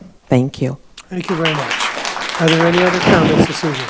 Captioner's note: audience applauding